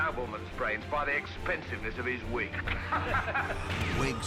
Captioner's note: chuckles